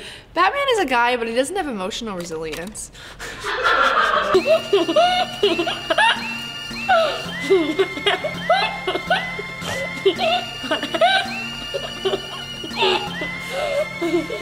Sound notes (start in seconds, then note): 3.2 laughing